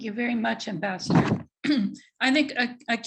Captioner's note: clears throat